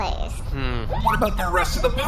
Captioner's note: Pleck hums unhappily